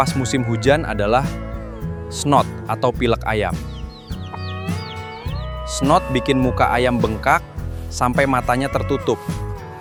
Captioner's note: snot